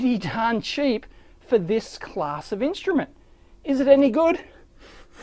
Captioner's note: sniffs